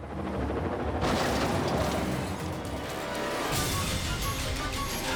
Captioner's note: metal crunching; frantic dramatic music